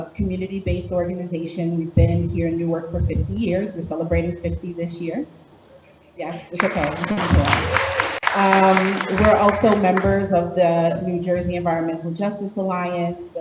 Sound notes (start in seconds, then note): 6.4 applause drowns out speaker; 6.5 audience applauds